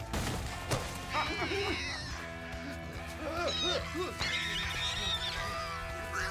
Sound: pigs oinking

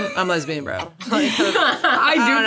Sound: all laugh

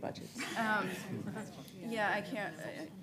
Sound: laughter

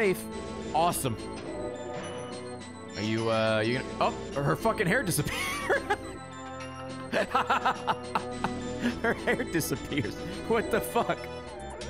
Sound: laughs

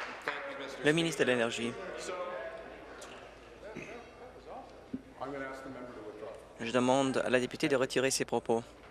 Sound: applause

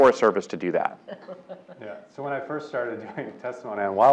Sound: laugh

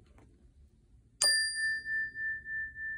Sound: calming chime sound

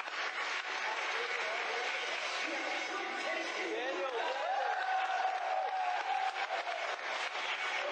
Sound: applause builds

